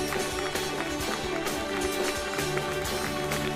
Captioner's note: applauding